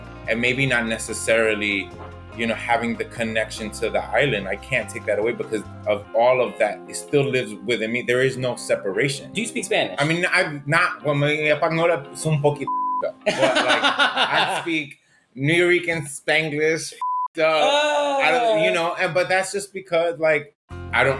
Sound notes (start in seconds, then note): 11.6 speaking spanish; 13.2 laughs